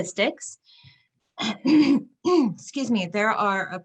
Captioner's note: clears throat